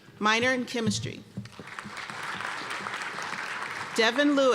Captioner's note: applause